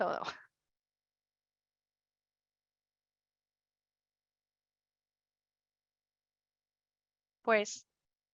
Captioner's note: silencio